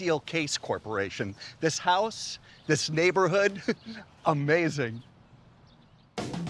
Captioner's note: laughs; upbeat music